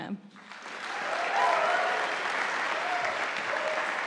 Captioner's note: audience applauding